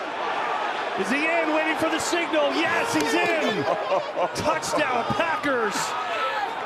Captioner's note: Tom chuckling